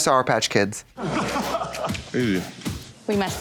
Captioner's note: people laughing